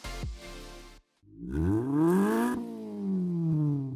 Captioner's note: engine revs